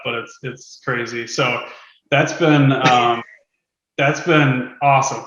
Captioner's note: laughs